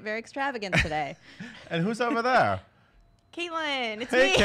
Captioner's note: laughs; laughs heartily